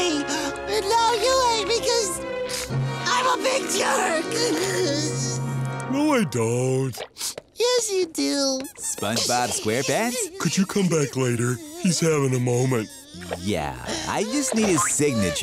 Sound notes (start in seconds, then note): 3.8 crying